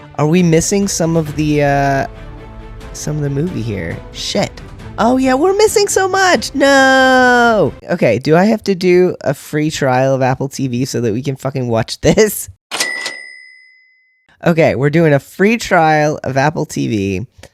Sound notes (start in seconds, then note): none